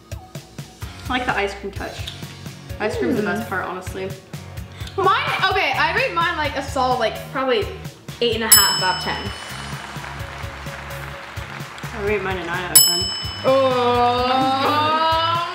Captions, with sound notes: - I like the ice cream touch. Ice cream's the best part, honestly. - Okay, I rate mine a solid, probably- (bell dings) Eight and a half out of 10. (applause) - I rate mine a nine out of 10. (bell dings) - Ohhh!